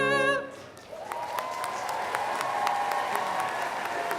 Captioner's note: applause